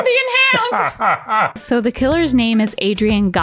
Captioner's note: laughs